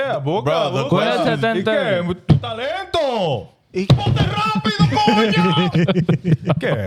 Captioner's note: laughing; speaking In Foreign Language